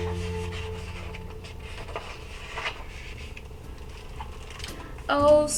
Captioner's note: page turning